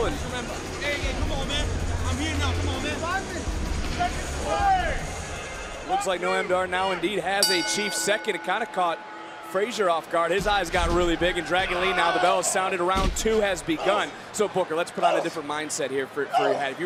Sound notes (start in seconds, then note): 7.4 bell rings